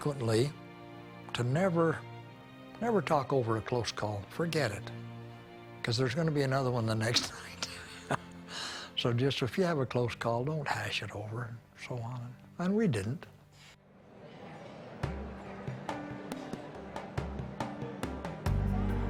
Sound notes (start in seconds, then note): 7.5 chuckles; 15.0 soft instrumental music